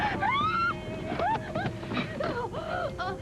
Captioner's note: screams